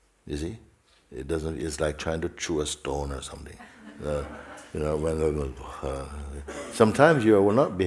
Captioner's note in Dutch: gelach